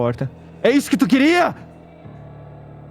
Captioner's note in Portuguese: gritando